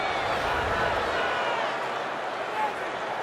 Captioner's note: crowd cheering